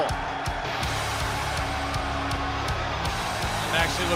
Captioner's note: crowd cheering